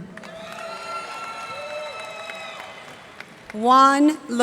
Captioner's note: cheers and applause